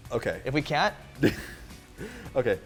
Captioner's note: laughs